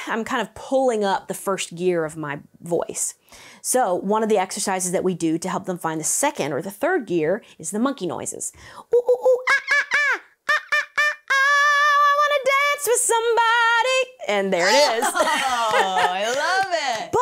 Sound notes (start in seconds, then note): 8.9 imitates monkey hooting; 14.6 laughs